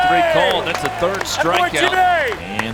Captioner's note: cheering